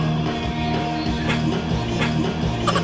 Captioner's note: cough